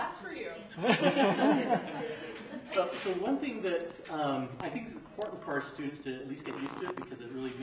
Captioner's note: laughter